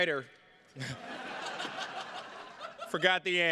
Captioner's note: attendees laughing